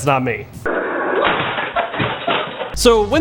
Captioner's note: chair breaks